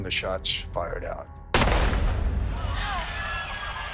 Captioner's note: gunshot; screaming